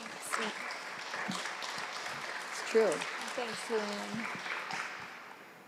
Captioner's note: applause